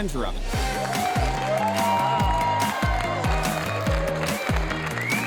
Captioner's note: crowd applauds and cheers